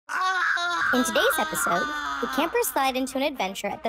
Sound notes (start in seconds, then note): 0.4 shouting